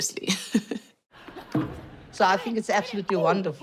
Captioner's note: mumbling in zulu